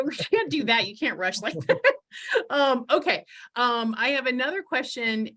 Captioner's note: laughs